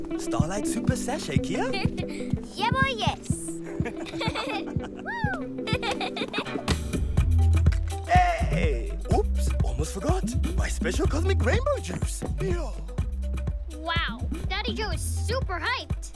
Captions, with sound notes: - Starlight super sashay, Kiya? - (Giggles) Yebo, yes! - (Laughter) - Whoo! (Laughter) Hey! Oops! Almost forgot! My special cosmic rainbow juice! Wow! Daddy Jo is super hyped!